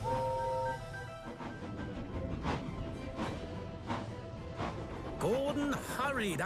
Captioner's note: toot-Toot-Toot!; chug-Chug-Chug